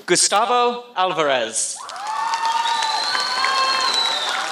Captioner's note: applause